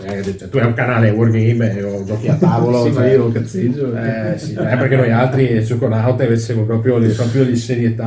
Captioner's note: laughs; they laugh